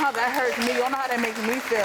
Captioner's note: audience claps